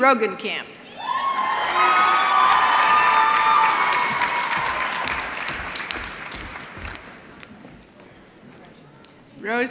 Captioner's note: applause